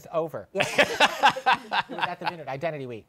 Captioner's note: laughs